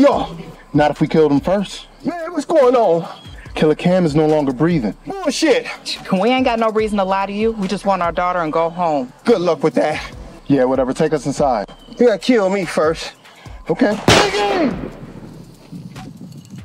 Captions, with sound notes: - Not if we killed him first. - Man, what's going on? - Killer Kam is no longer breathing. - Bullshit! - We ain't got no reason to lie to you. We just want our daughter and go home. - Good luck with that. - Yeah, whatever, take us inside. - You gotta kill me first. - Okay. (gun fires) (man yells)